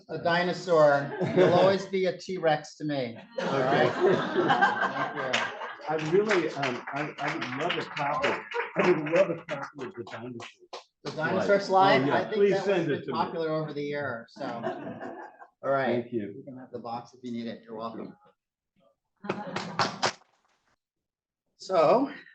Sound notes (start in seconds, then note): 3.2 laughter; 5.0 applause